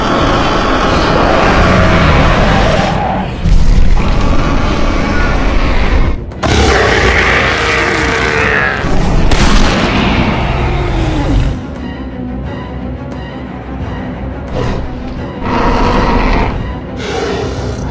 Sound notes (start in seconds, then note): 0.0 spinosaurus Roars; 9.1 gunshot Sounds; 11.7 dramatic Music; 14.5 spinosaurus Growls